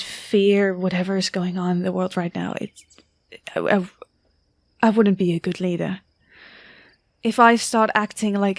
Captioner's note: stammers